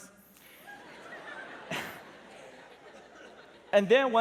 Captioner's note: laughter